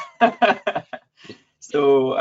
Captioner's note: laughs